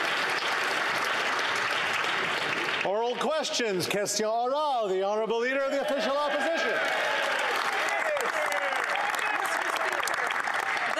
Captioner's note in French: Applause